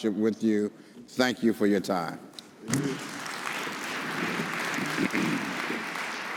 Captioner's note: audience applauds